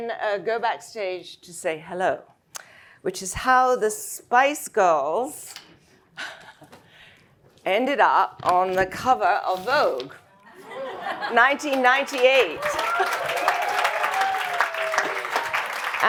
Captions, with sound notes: and then go backstage to say hello, which is how the Spice Girls [laughs] ended up on the cover of "Vogue" 1998. [audience laughs] [audience clapping and cheering]